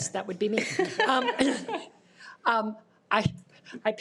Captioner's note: participants laughing